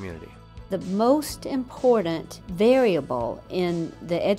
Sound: voiceover

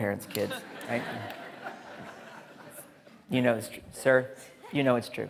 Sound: audience laughing

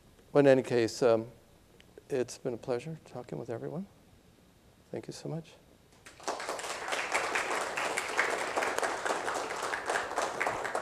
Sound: applause

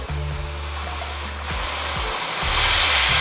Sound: fizzing

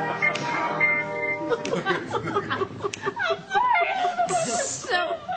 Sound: laughs

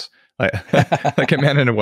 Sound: laughs

